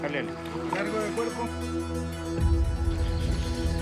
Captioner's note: Spanish language